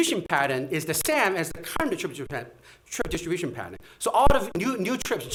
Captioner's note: stutters